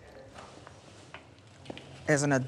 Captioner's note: footsteps scuffing